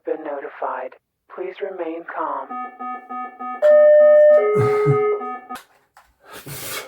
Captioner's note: alarm siren